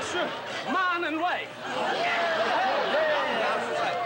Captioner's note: cheering